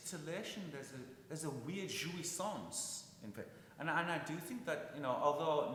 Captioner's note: speaking in foreign language